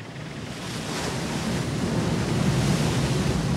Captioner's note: waves crashing